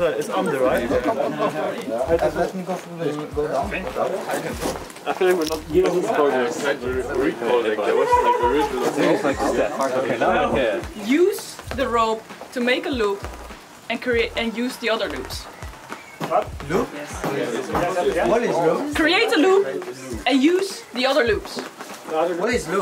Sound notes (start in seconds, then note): 4.1 all chattering